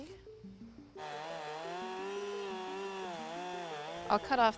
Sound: chainsaw buzzing

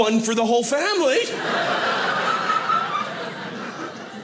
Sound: audience laughing

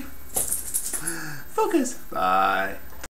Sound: sigh

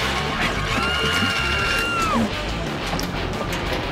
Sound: glass shattering; woman screams; upbeat music

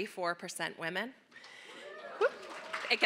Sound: cheering

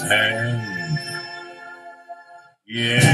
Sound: background hooohs

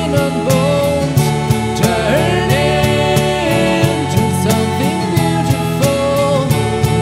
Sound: ohh

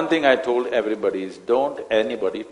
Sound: none

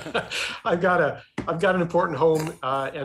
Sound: laughs

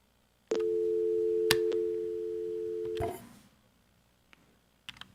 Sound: phone beeping

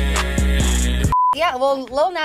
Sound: beep

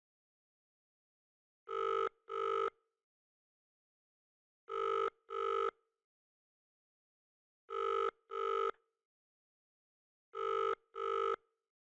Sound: SFX: phone ringing

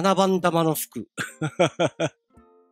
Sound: giggle

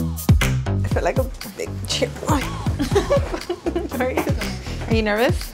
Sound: all laughing

